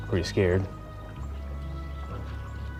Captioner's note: none